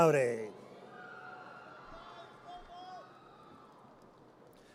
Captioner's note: audience cheers